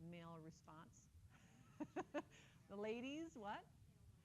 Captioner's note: chuckles